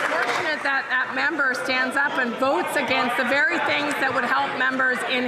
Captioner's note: some Applause